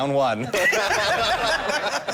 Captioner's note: laughter